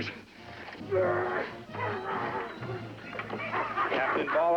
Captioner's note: Soldier Groaning, Plunkett Laughing